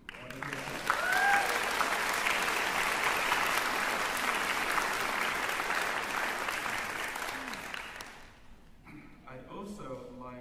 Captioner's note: applause, cheering